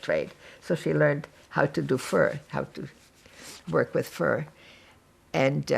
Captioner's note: wiping nose